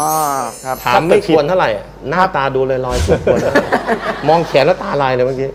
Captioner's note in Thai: เสียงหัวเราะ